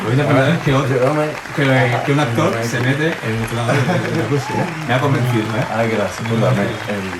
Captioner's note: applause